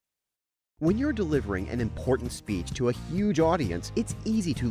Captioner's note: voiceover